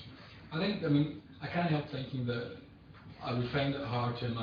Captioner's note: audio distorts